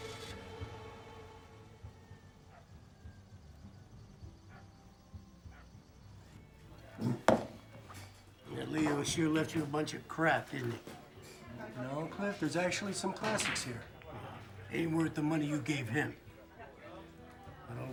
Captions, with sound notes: (car engine rumbles) (dog barking) - That Leo sure left you a bunch of crap, didn't he? - No, Cliff, there's actually some classics here. - Aint' worth the money you gave him.